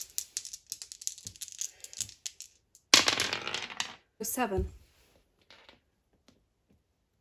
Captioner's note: sound of dice rolling